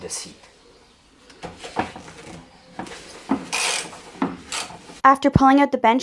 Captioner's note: construction sounds